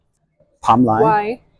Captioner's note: in Welsh